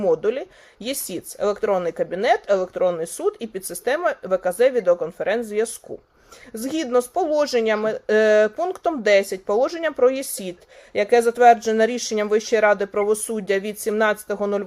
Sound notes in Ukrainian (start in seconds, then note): none